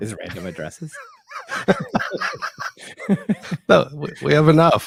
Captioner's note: laughing